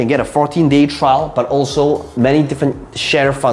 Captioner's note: none